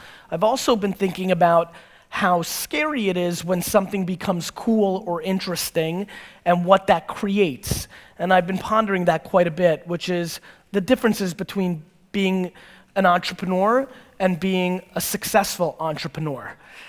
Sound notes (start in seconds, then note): none